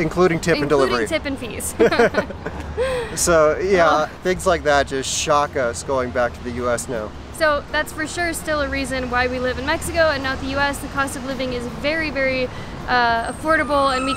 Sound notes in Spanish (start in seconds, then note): 1.7 Risas